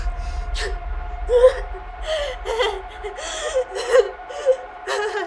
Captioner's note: Casey gasping and whimpering